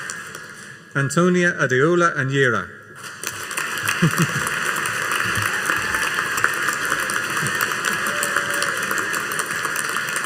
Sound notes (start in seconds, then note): 3.0 audience applauding